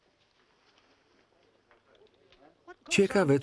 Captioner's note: people chatting